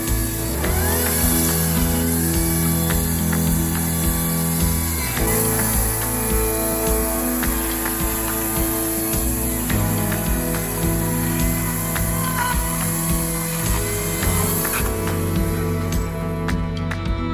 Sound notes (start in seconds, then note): 5.7 electric chainsaw sound